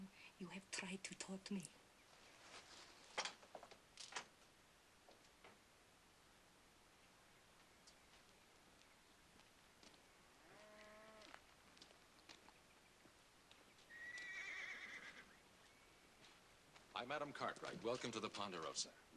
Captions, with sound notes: YOU HAVE TRIED TO TAUGHT ME. ( cattle lowing ) ( horse whinnying ) I'M ADAM CARTWRIGHT. WELCOME TO THE PONDEROSA.